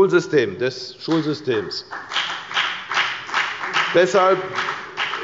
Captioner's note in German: Beifall bei der FDP